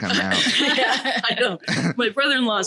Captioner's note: laughing